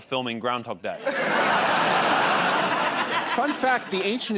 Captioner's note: laughter